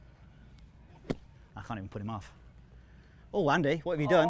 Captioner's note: golf club thwacking